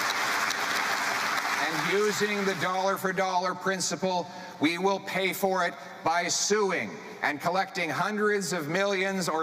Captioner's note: cheering and Applause